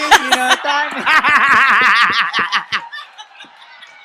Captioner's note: laughs